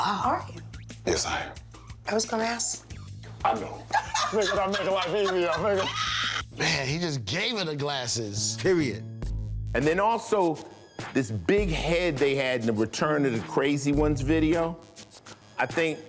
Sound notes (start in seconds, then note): 3.8 laughing